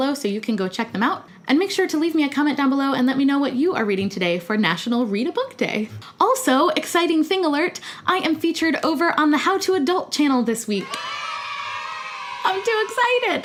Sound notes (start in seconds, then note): 10.8 kids cheering